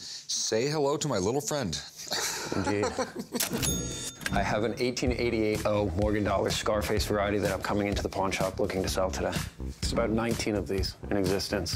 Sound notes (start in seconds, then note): 2.1 laughs